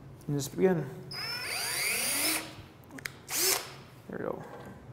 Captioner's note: drill buzzing